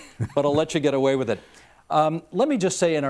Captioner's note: chuckling